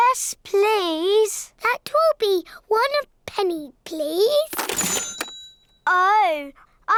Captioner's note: dings